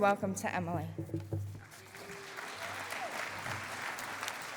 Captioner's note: cheering and applause